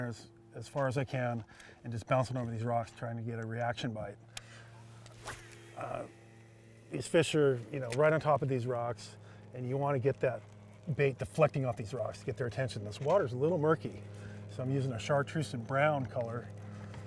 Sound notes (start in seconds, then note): 4.9 rod whipping; 6.4 reel spinning